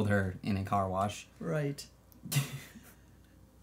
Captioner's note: laughs